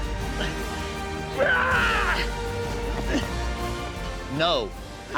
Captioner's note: grunting